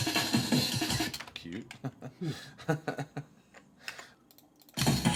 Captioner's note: laughter